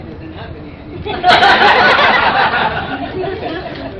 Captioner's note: laughter